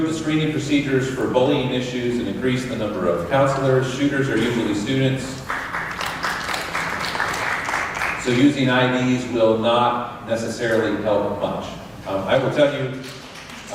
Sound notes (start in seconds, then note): 5.4 applause